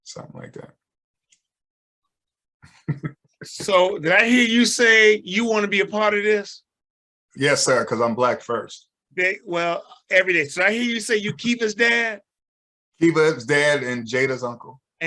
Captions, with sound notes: Something like that. (chuckles) - So did I hear you say you wanna be a part of this? - Yes, sir. 'Cause I'm black first. - Well, every day. Did I hear you say you're Keiva's dad? - Keiva's dad and Jada's uncle.